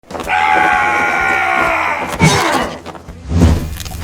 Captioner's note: growling